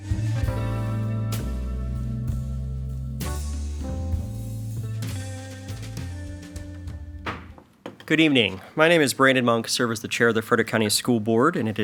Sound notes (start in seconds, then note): 0.0 slow blues music; 7.2 gavel pounds